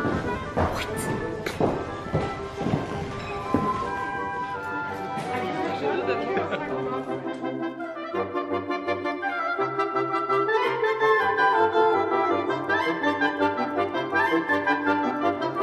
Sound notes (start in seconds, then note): 0.0 happy Upbeat Classical Music; 1.4 soft background chatter